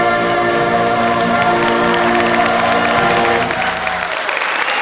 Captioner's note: audience applauds